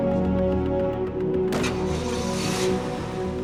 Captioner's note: engine starts